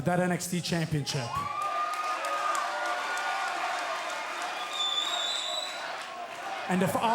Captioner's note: crowd cheering